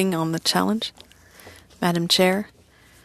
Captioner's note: speaking french